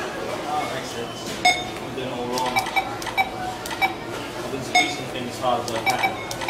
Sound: scanner sounds

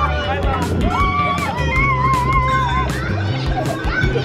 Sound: children squealing

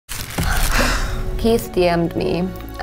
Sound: sighing

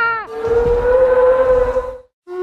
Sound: dino moan

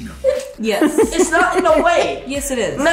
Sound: giggling

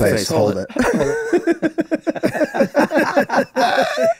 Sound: all laughing

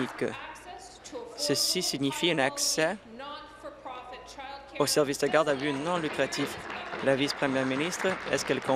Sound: applause

